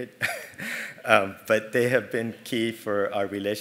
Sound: laugh

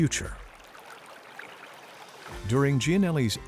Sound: sound of water pouring into stream

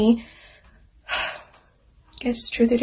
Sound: sighs

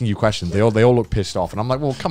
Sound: laughing

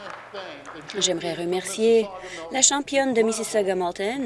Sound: applause

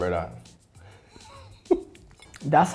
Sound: laughing

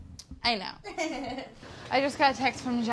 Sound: laughs

